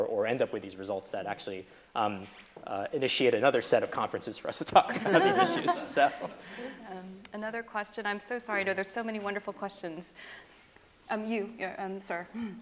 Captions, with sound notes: or end up with these results that actually initiate another set of conferences for us to talk about these issues so. (laughing) - Another question. I'm so sorry, there's so many wonderful questions. Um, you sir.